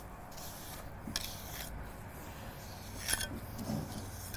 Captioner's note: trowel on wet cement